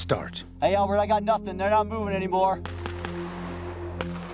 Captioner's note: voiceover